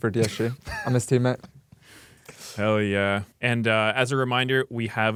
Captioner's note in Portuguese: risos